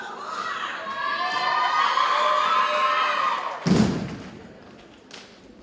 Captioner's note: audience members exclaim